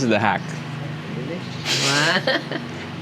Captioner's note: chuckles